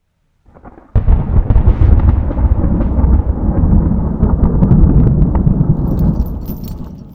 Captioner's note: thunder